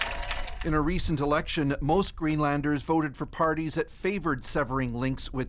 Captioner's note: applause